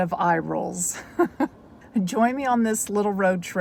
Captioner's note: laughs